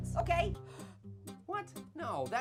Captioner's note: Annoying Orange inhales